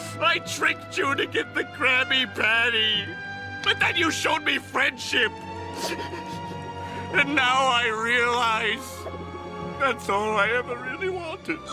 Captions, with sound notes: I TRICKED YOU TO GET THE KRABBY PATTY! BUT THEN YOU SHOWED ME FRIENDSHIP! *sniffles* And now I realize... ...that's all I ever really wanted!